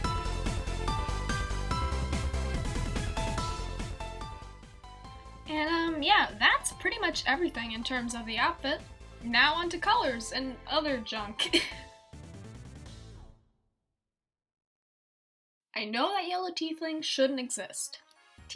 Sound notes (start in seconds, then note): 11.4 giggle